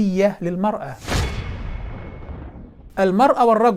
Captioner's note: sound effect